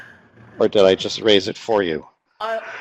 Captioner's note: laughing